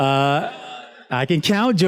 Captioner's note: students laughs